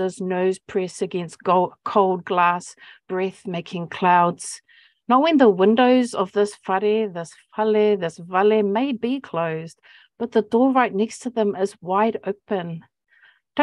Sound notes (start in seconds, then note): 6.6 speaking Maori